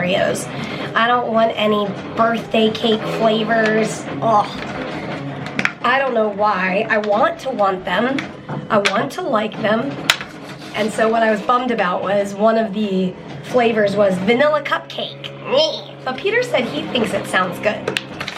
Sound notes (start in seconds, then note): 15.3 makes disgusted noise